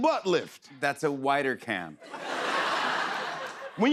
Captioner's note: laughter